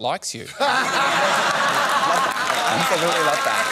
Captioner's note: laughter